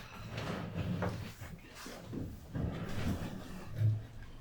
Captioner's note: chair rumble